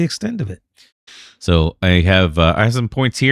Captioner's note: uh